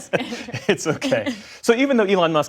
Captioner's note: laughter